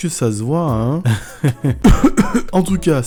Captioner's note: laughs; coughs